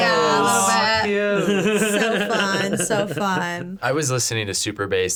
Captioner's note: laughing